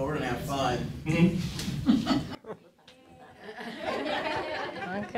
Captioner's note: chuckling